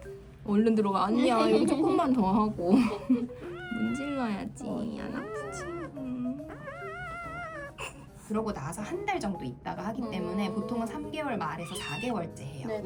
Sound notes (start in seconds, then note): 5.4 muttering as if wronged